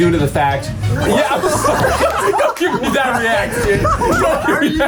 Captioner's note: everyone laughing